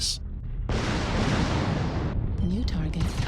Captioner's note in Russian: звучный запуск ракет